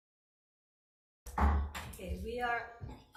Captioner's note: gavel bangs